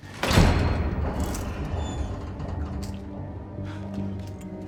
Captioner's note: door clanks and squeaks